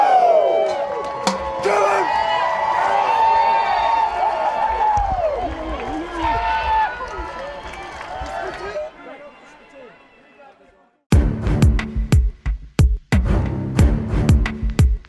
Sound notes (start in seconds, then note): 2.0 crowd cheering; 11.2 dramatic keyboard music